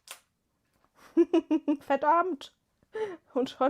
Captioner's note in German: gelächter